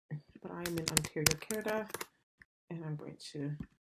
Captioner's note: keyboard clicks